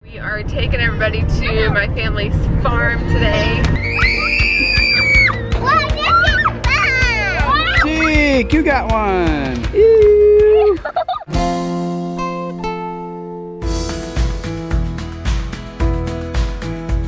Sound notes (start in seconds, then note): 3.7 kids screaming; 10.5 child giggling; 14.3 upbeat music